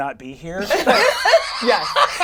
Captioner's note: all laugh